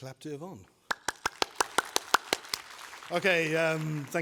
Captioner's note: applause